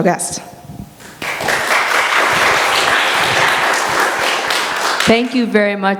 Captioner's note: applause